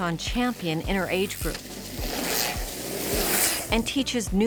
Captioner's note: bikes riding past